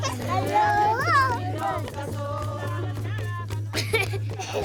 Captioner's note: children laughing